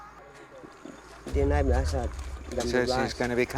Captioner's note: speaking Indonesian